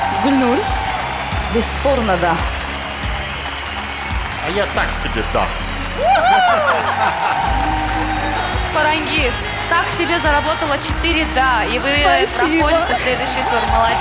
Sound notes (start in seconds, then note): 6.0 laughing